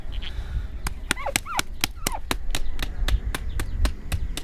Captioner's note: quick, dull, wet smacking